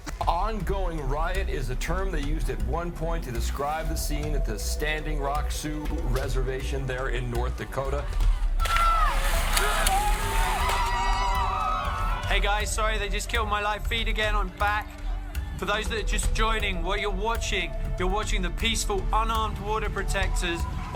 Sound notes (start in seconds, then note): 7.8 protestors screaming; 8.5 gun firing